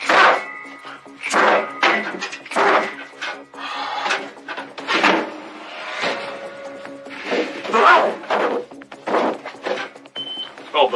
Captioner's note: grunting